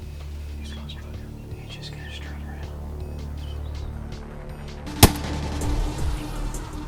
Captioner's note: whispering